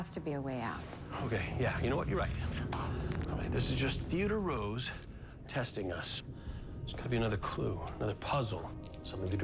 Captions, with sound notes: THERE HAS TO BE A WAY OUT. OKAY, YEAH, YOU KNOW WHAT? YOU'RE RIGHT. (knuckles crack) ALL RIGHT, THIS IS JUST THEODORE ROSE TESTING US. THERE'S GOTTA BE ANOTHER CLUE, ANOTHER PUZZLE.